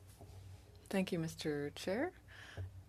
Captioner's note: speaking French